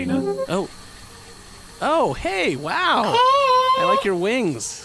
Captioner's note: projection boot-up noise